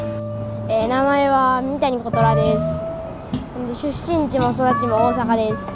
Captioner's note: speaking in foreign language